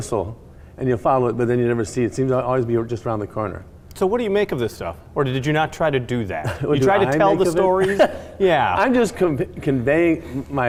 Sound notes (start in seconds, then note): 6.4 laughing